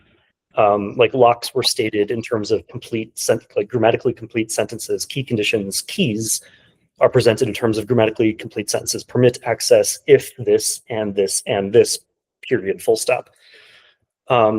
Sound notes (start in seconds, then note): none